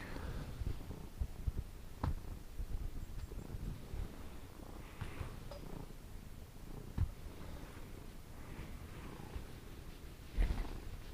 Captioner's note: cat purring